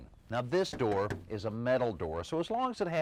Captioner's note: knocking